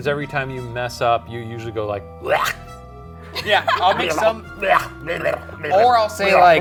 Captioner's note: gibbering